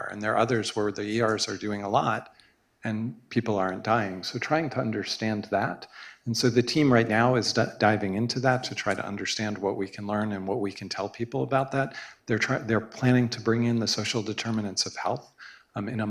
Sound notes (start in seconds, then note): none